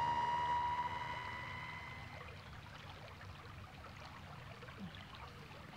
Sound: stream trickling

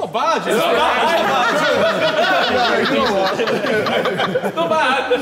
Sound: all laughing

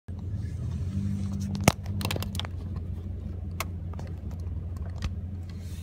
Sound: traffic and wind

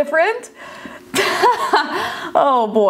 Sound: laughs

